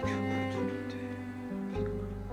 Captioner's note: speaking in Korean